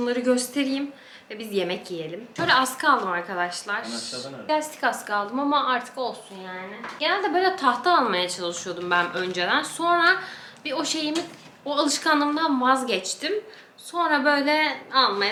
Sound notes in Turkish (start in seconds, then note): none